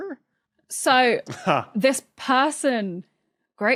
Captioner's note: chuckles